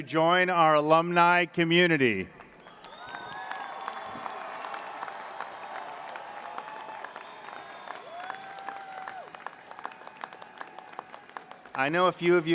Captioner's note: applause